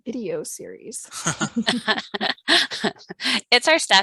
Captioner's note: panel laughing